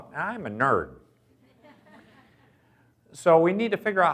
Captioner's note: audience laughs